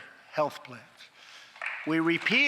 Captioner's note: applause